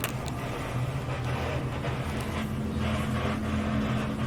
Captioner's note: static crackling